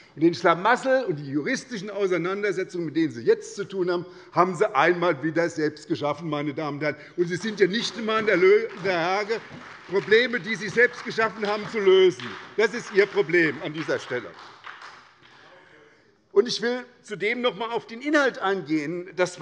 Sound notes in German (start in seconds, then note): 14.9 Beifall bei der SPD